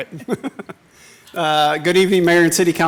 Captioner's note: laughing